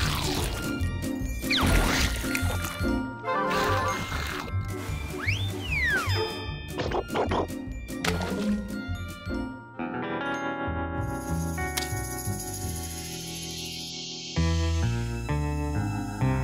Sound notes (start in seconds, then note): none